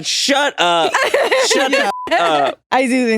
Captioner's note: all chuckling; beep